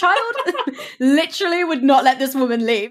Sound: laughs

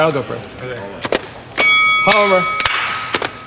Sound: bell rings

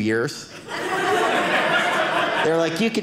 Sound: audience laughing

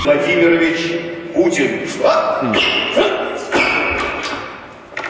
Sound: foreign language over loudspeaker

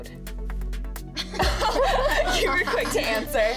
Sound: laughs

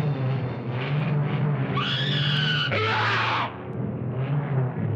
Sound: screams

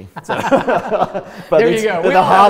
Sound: both laugh

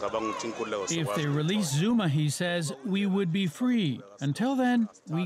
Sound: speaking Foreign Language

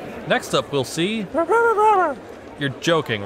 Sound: mumbles a surprise

